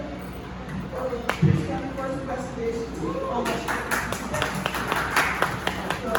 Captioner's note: applause